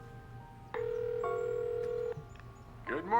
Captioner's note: ringing